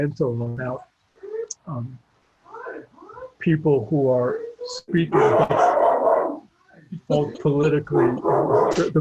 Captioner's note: dog barking